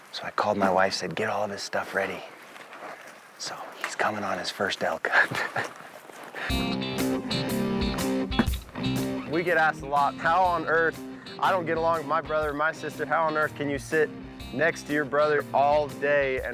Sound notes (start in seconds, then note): 5.0 laughs; 6.6 upbeat country music